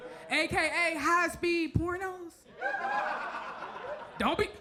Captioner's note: audience laughs